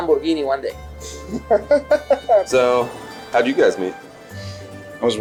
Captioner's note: chuckles